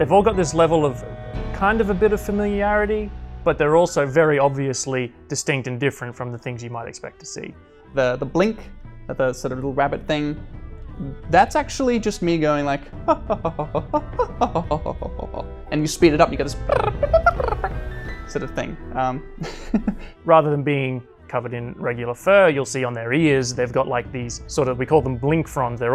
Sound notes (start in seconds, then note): 13.2 makes jovial humming sounds; 16.6 makes chirping sounds; 19.9 laughs